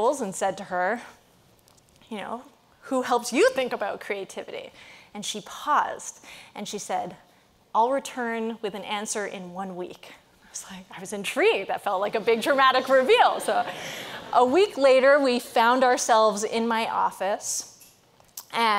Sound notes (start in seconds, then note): 12.9 audience laughing